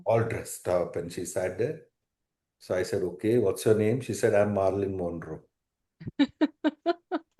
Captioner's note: laughter